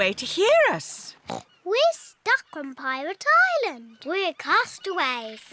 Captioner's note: oinks